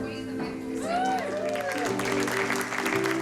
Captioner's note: cheering, applause